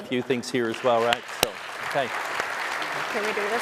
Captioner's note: applause